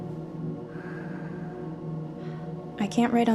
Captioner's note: daughter exhaling